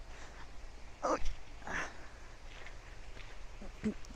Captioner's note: grunts